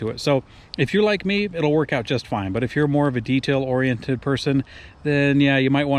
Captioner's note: none